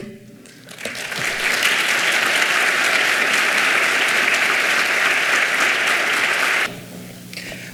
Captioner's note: clapping